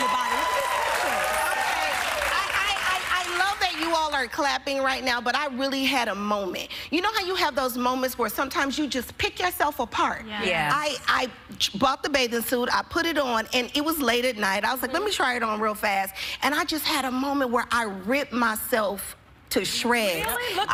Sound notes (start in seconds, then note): 2.9 cheers and applause